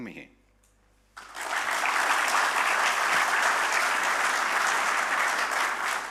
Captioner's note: audience applauding